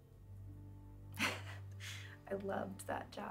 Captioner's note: Karen chuckles